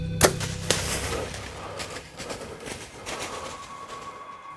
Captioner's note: bow and arrow shot